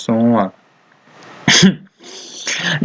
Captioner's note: laugh